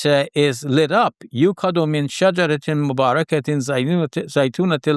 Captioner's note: speaks in Arabic